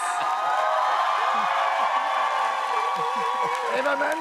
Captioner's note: cheers and applause